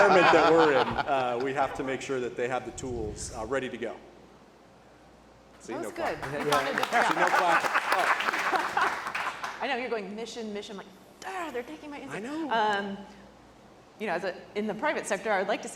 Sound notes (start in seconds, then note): 8.0 audience clapping